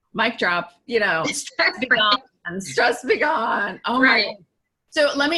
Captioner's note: laughs